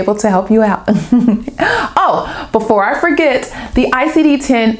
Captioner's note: laughter